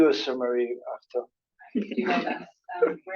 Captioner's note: laughing